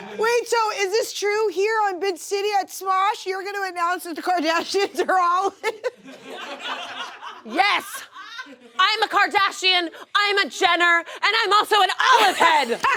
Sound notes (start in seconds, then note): 5.7 audience laughs; 12.2 audience laughs and cheers